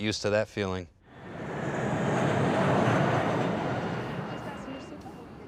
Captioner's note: jet engine roaring